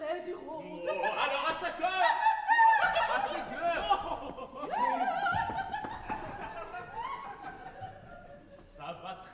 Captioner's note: ALL laugh